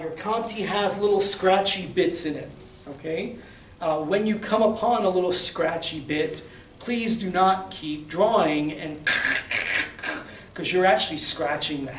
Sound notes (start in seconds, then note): 7.7 scratching noises